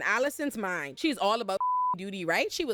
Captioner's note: beep